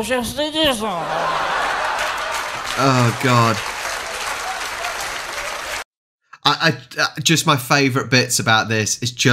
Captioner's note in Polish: Aplauz